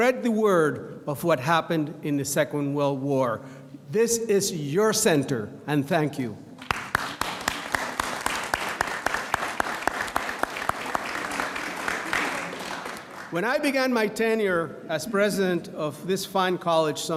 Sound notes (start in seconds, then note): 6.6 audience applauds